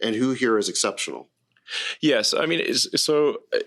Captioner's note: stammers